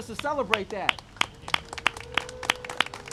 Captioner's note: applause and cheering